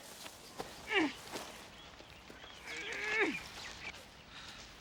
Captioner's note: ladies groaning